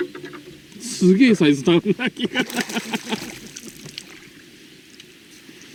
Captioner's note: laughing out loud